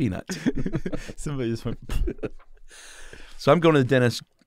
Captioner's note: exhales